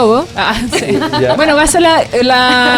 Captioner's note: laughs